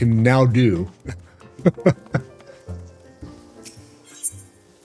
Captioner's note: laughter